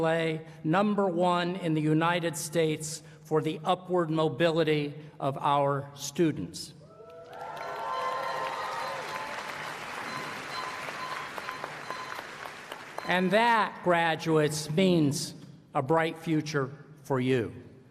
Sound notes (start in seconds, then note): 6.9 applause